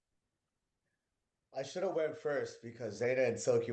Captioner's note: hablando inglés